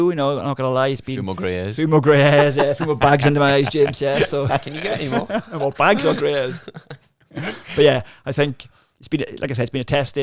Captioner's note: laughing